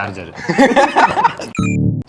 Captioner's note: laughs